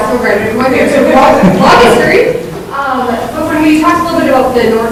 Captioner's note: speaking off microphone